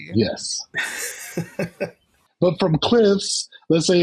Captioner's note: laughs